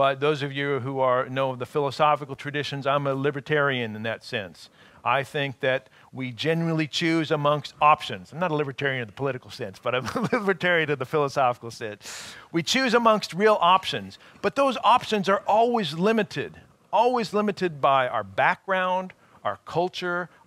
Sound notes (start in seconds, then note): 10.0 chuckling